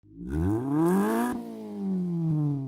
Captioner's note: engine revs